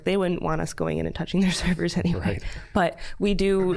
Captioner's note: chuckling